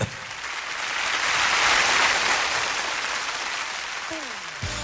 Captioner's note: audience applauding